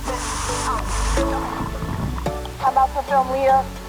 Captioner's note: water splashes